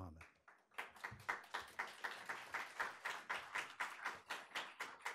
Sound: audience applauding

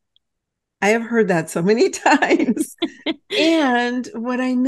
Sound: laughs

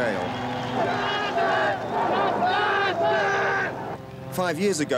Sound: chanting

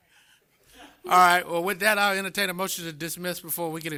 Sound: laughter

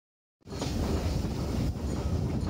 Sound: train sounds

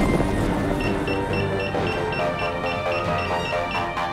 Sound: beeping

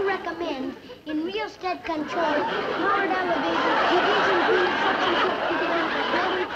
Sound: audience laughs

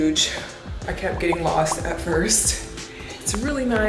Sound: popping

